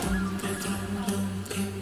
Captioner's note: indistinct chatter